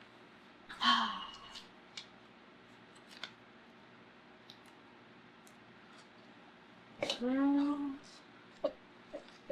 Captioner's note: sighs